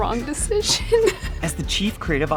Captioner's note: laughing